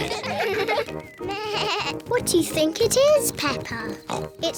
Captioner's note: bleats; oinks